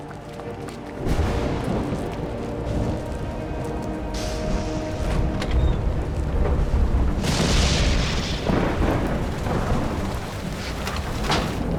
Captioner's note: thunder